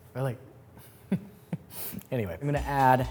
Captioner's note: laughs